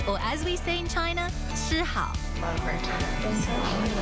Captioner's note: speaks Mandarin